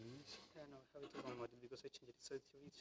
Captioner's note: chatter